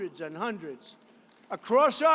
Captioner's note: applause